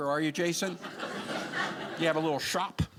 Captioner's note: audience laughing